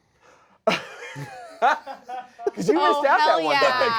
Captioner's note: cast and crew laugh